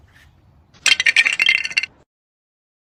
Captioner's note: sound of ice clinking